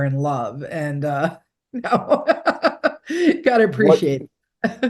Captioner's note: laughing